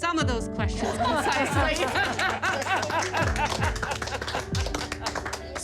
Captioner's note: laughter